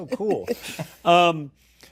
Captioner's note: laughter